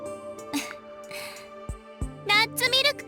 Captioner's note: chuckle